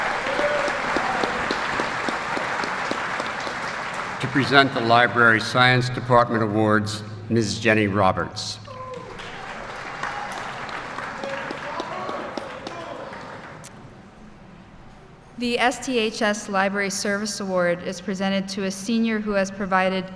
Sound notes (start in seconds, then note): 12.4 applause